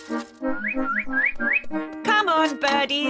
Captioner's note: tweets